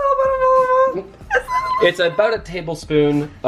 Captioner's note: high-pitched gibberish